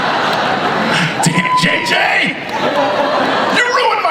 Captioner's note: audience laughs